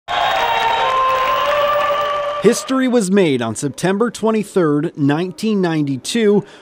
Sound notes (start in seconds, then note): 0.0 cheering